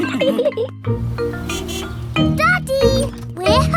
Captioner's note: horn honks